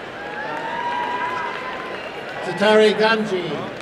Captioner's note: applause and cheering